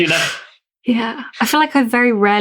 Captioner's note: laughs